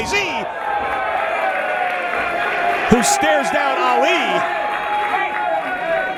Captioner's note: applause